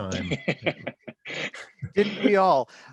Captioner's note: chuckles